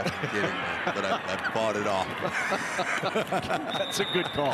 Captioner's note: laugh; referee blows whistle